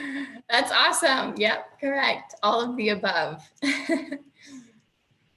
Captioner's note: chuckles; laughs